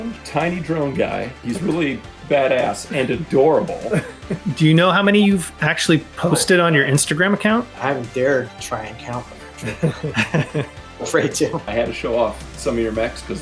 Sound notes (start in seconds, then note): 9.4 laughter